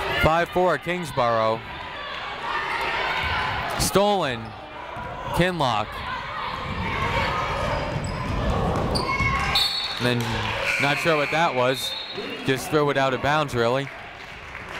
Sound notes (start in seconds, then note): 5.9 people shouting in the crowd; 9.5 whistle tweeting